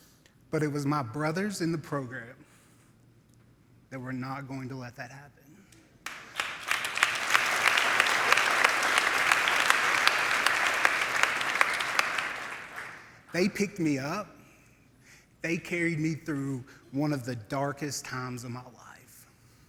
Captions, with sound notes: But it was my brothers in the program that were not going to let that happen. [crowd applauding] They picked me up. They carried me through one of the darkest times of my life.